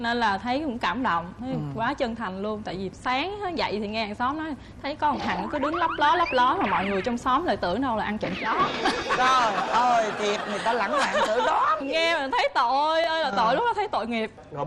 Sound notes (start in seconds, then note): 8.4 laughing